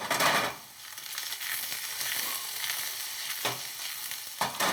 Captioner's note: oil sizzling